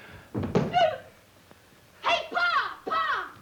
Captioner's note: leg thuds; child yelps